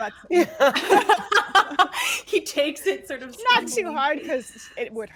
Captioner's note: laughs